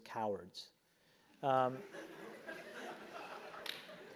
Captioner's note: laugh